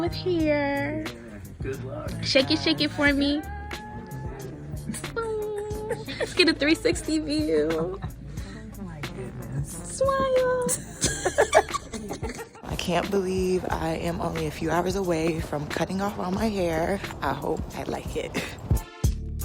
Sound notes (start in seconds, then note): 3.6 laughs; 10.6 laughs; 18.4 laughs; 19.2 upbeat music